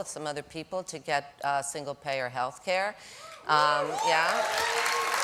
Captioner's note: applause